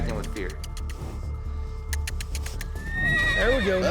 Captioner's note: kissing sound; horse neighs